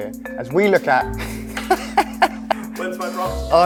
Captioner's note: laughter